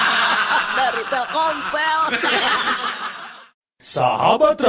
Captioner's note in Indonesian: tertawa